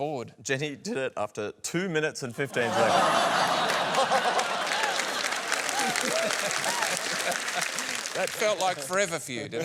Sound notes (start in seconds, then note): 2.5 laughter, applause